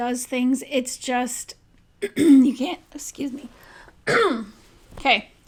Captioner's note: clears throat